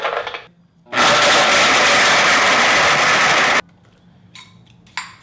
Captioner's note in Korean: 믹서기 작동하는 소리